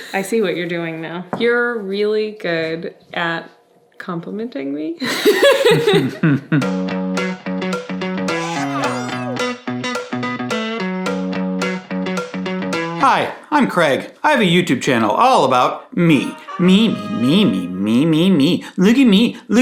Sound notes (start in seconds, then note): 5.1 laughing; 6.6 upbeat music